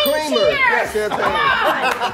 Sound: bell dings

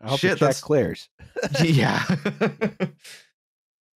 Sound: laughter

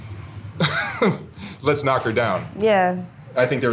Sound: chuckles

